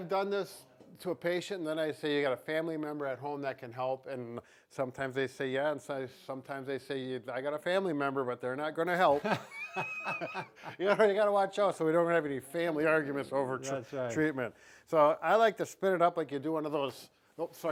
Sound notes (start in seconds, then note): 9.1 laughs